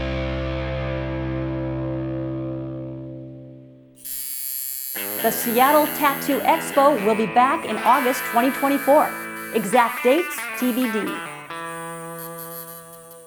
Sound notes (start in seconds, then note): 3.4 buzzing